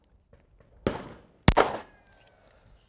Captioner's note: bang